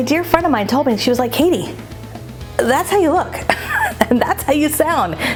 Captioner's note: chuckles